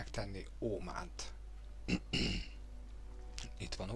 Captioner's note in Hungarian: köhögés